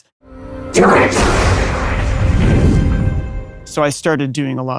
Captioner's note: echoing